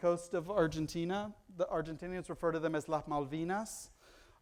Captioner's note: foreign language